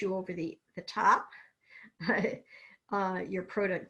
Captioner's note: laughs